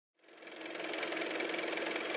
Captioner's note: car motor